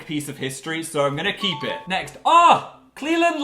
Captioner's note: ding